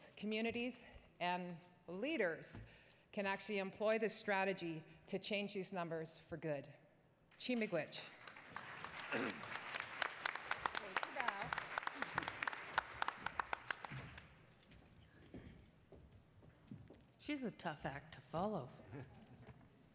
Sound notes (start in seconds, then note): 7.8 speaking in foreign language; 8.2 attendees applauding